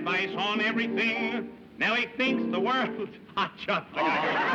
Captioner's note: chuckles